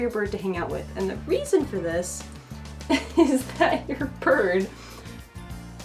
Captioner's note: laughs